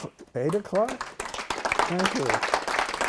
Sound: applause

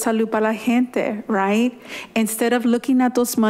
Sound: speaking in foreign language

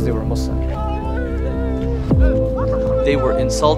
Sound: screaming

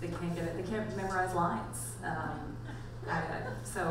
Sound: audience laughs

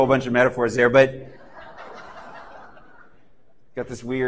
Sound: laughter

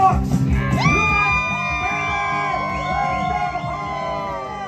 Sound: loud cheering

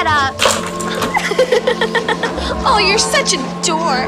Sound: laughter

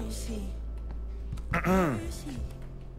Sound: clears throat

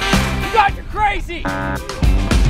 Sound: buzzer sound

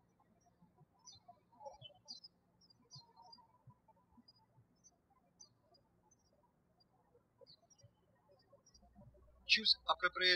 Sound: bird chirping

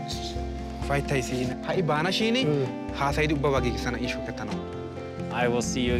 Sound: speaking foreign language

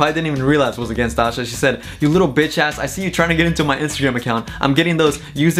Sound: tch

